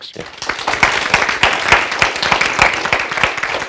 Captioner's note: applause